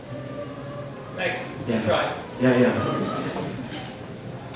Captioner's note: voiceover